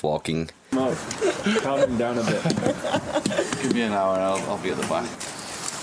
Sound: chatter and Laughing; sound of footsteps

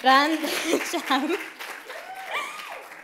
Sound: claps

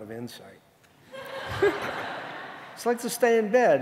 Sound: audience laughing

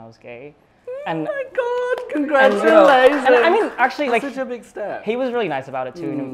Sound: applause

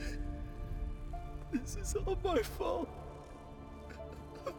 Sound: sobbing

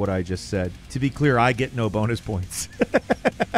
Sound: laughs

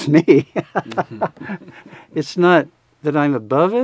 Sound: both laughing

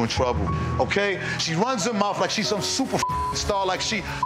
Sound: beep

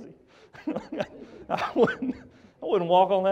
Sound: laughs

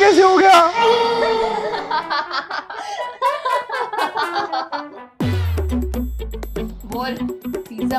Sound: laughing

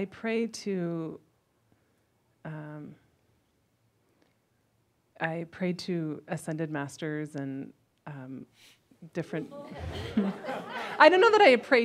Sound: gloats and some chuckles

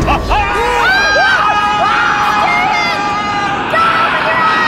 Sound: screaming

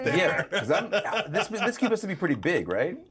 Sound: speaker laughs

